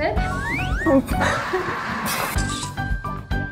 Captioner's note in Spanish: ahhhh